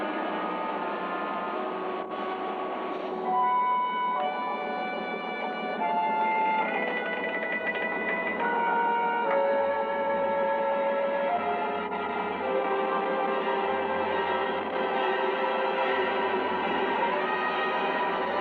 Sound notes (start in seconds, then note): 6.2 wood creaking; 14.0 ominous music